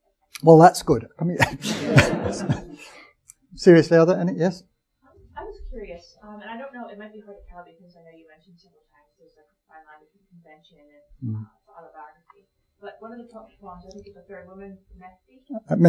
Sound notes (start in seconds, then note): 1.4 audience chuckling